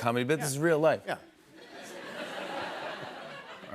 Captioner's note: laughter